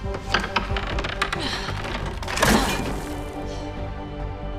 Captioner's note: grunts